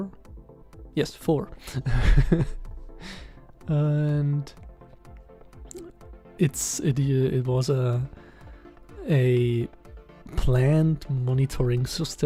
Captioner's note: laughs because of shame